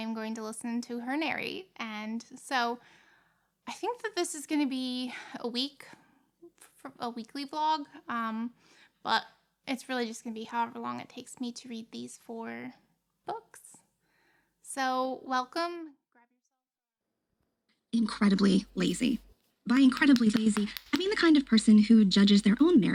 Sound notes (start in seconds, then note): 15.7 sound from audiobook